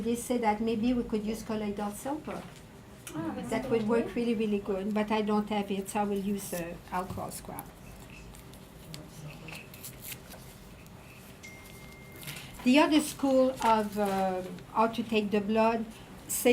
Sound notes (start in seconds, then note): 9.5 paper ripping; 11.4 phone dinging